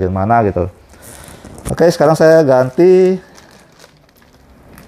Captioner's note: rubber noise; plastic noise